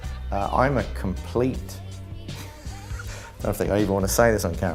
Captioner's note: laughter